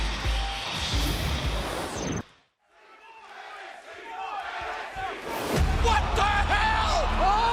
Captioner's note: crowd cheering